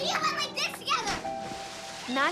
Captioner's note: splashing